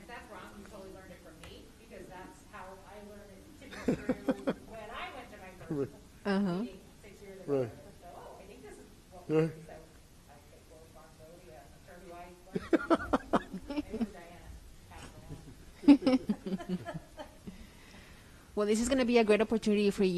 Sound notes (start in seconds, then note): 10.4 laughs; 15.2 group laughs